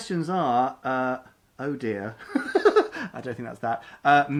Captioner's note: laughs